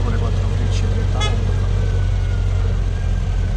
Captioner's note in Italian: Sirena in lontananza